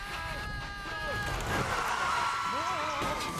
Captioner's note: animals yelling; tires screech